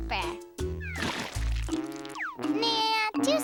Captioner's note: splat